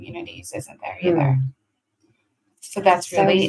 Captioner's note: hums